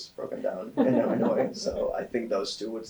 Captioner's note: all laughing